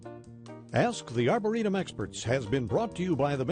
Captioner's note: voiceover